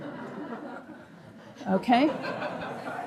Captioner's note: audience laughing